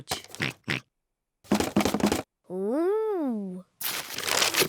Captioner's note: oinks; rattles